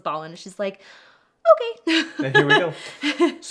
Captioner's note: laughs